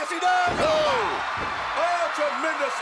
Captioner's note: commentators exclaim